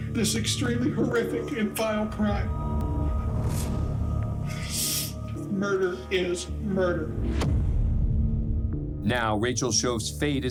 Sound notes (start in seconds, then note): 3.2 tense music plays; 4.6 sniffles